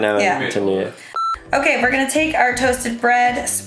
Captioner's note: beeping